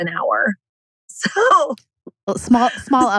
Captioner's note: laughs